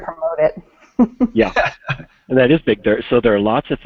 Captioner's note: laughs